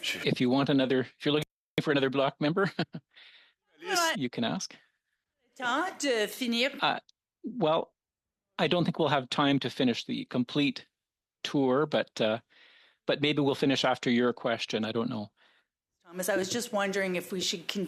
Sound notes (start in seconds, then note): 2.8 speaking French